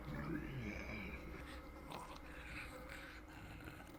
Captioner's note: creature growls